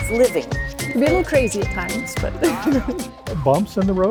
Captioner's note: laughs